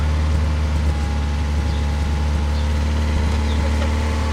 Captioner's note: engine roars